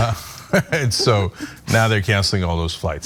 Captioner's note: laugh